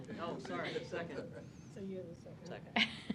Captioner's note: laugh